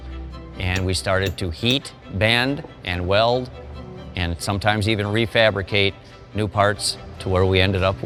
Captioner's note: hammer banging